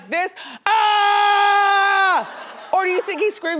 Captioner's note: screams; laughs